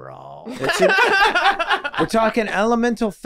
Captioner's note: group laughing